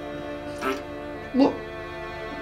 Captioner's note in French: Prout